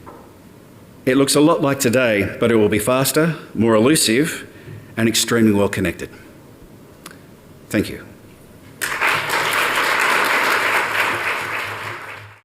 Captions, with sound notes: It looks a lot like today but it will be faster, more elusive and extremely well connected. Thank you. [APPLAUSE]